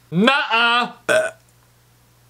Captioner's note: Diet Pepsi Belch